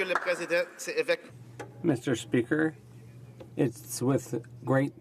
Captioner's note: some Applause